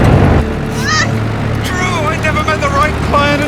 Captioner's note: Drew grunts